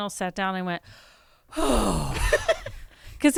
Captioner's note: sighs